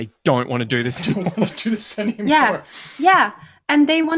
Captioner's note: laughs